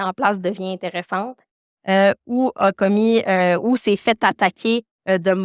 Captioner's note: continues speaking French